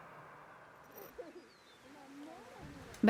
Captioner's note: laughing and talking softly